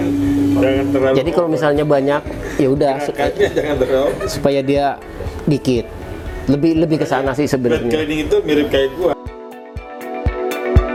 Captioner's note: friction